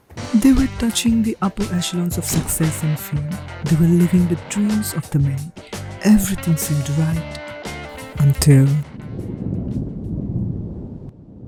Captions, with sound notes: They were touching the upper echelons of success and fame. They were living the dreams of the many. Everything seemed right, until. ( thunder rumbling)